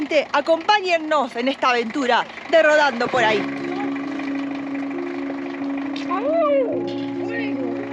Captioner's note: applause